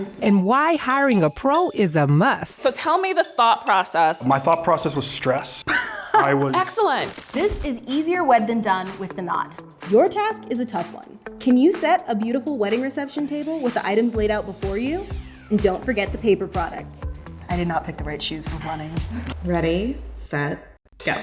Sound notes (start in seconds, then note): 5.6 laughs